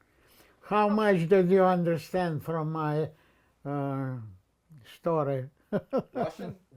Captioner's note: laughing